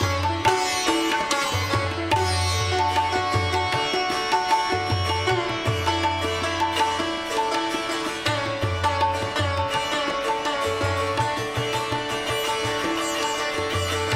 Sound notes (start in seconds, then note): none